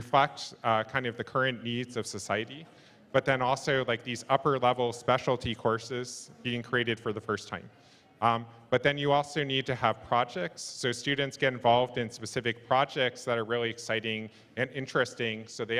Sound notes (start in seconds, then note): none